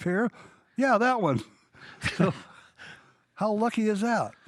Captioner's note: laughs